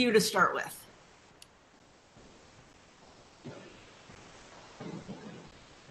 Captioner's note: white noise hissing